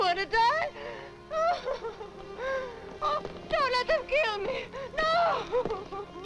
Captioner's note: weeping; sobbing